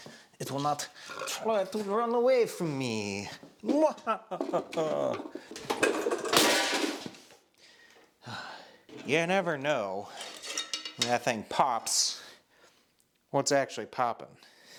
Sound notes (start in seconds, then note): 3.6 laughs; 4.4 metal rattles